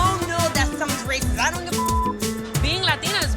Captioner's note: beep